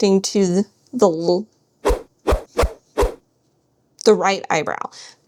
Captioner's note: swoosh sound effects